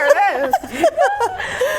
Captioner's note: laughing